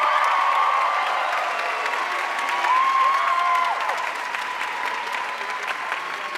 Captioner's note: audience cheering and applauding